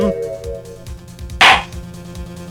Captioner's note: gavel slams!